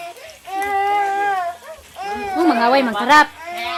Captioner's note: crying sounds from a baby